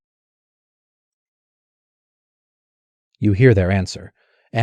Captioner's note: silence